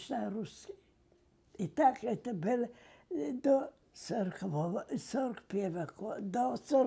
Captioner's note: mumbling